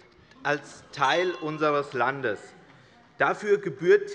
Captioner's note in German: Zurufe von der SPD und der LINKEN